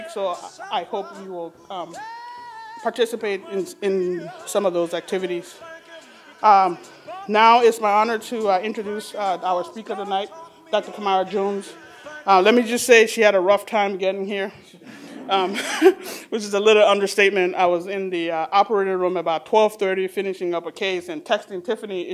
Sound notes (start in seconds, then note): 14.8 laughs